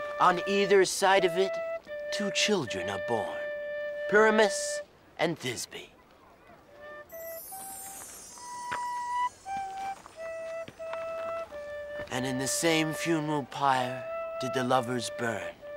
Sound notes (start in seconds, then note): 7.1 chimes ringing